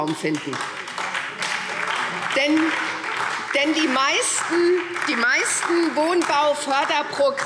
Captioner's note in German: Beifall